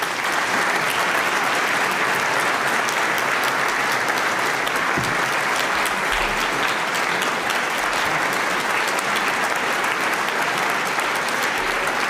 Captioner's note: applause